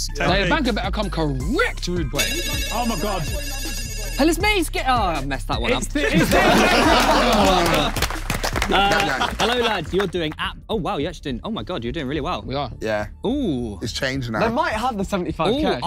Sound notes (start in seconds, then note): 2.2 phone ringing; 5.8 everyone laughing